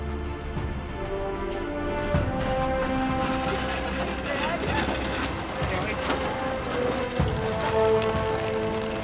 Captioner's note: hospital bed wheels rumbling